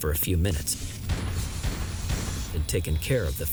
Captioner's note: gunshots